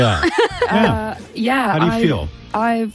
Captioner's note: ladies laughing